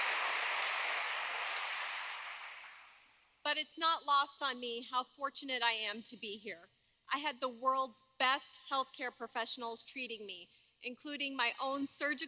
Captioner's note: applause